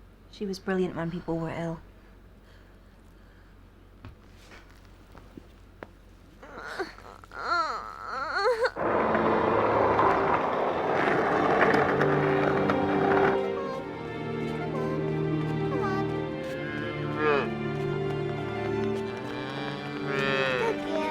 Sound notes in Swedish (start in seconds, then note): 6.4 stönande; 8.7 hjul slipar; 9.2 sommar stråkmusik